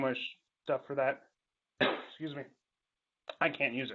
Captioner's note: cough